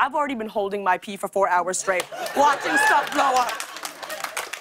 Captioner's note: cheers and applause